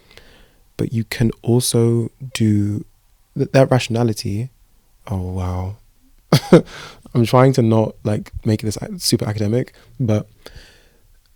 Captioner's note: laughs